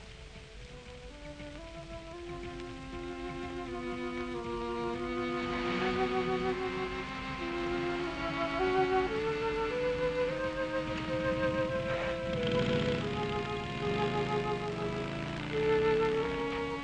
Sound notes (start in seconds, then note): 12.3 motorcycle driving away